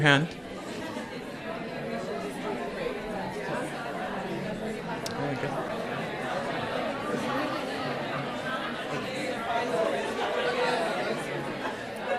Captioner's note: crowd discussion